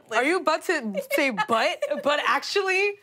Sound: laughing

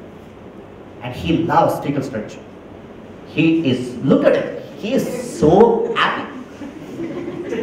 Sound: laugher

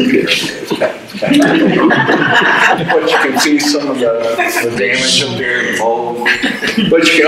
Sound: audience laughter

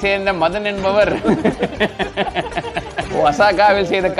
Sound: laughs

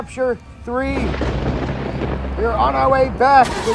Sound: thunder Sounds

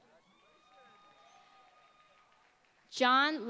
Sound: applause

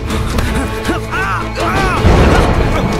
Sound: groaning in pain

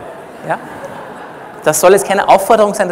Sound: laughter from the audience

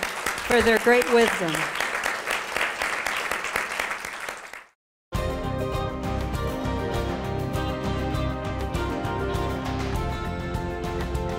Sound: applause

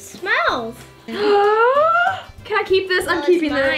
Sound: gasping

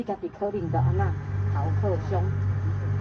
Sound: Taiwanese

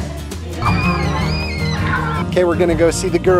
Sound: children cheering

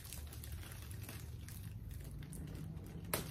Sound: plastic bag rustles lightly

